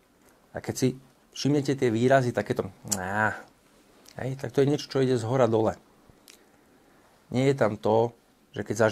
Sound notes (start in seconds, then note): 3.2 tisks, groans